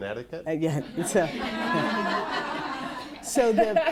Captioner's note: laughter